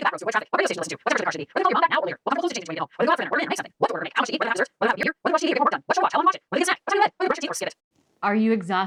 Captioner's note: increasingly fast talking